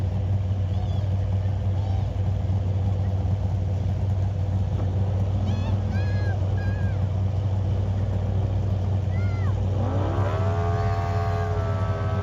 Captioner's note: car engine revving